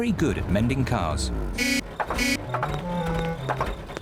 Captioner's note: horn honks